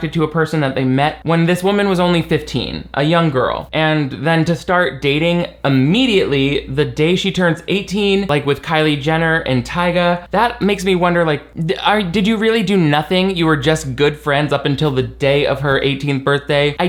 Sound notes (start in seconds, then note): none